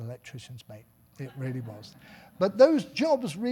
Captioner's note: audience laughing